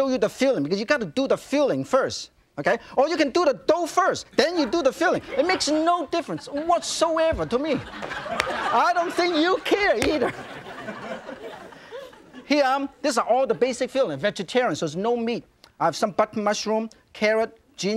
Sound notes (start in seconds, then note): 7.9 audience laughs